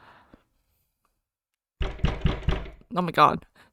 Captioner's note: aggressive knocking